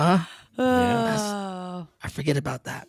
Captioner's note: sighing